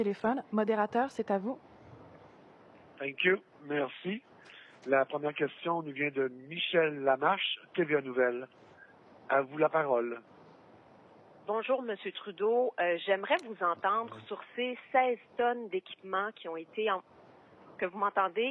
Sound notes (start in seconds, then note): 2.3 speaking in French